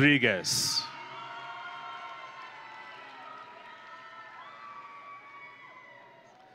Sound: audience and graduates cheering

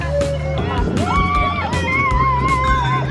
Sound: children squealing

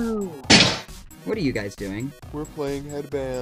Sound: shove; thud

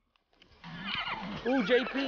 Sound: horses whinny

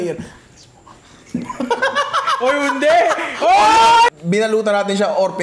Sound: laughter

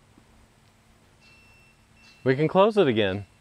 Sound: operator beeping

